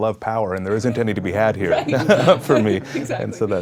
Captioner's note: people laugh quietly